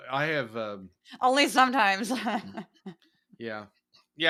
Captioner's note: laugh; laugh